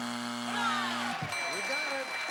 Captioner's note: buzzer